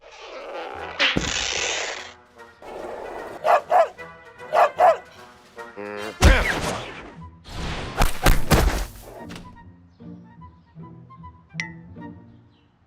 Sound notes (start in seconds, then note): 4.4 barking